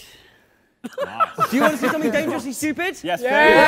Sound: laughter

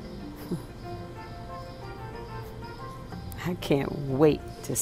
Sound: chuckles

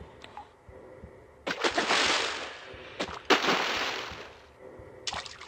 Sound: splash

